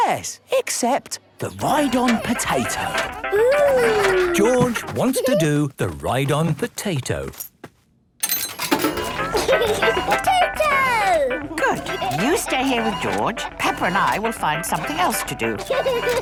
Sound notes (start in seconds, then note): 9.0 giggling; 14.8 George giggles